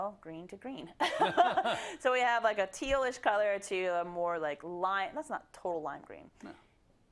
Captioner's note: laugh